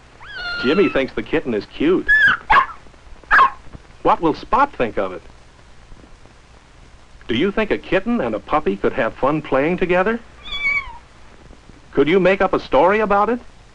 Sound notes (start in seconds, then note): 2.1 barking; 10.4 mewing